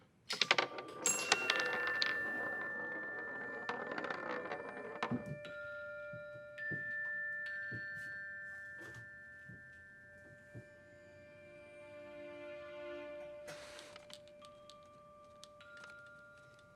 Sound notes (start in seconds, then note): 0.2 marble rattling; 0.6 light bell music